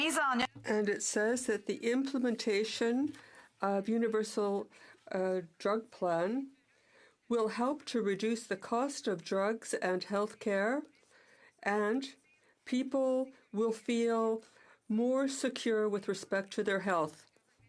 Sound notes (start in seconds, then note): 4.5 speaking in French